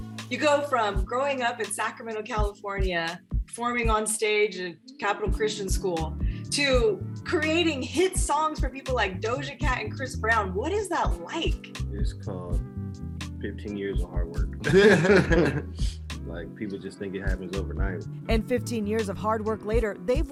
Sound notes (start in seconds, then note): 14.6 laughing